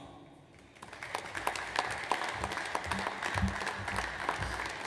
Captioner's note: audience applauds